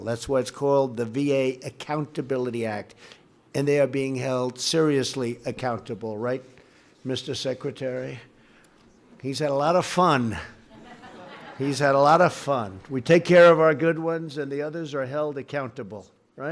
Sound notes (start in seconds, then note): 10.6 laughter